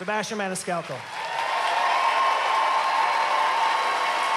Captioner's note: cheering, applause